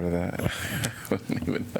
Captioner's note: laughter